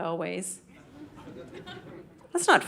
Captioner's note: audience laughing